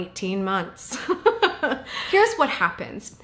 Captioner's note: chuckles